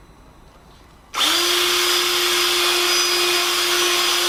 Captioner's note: drill power tool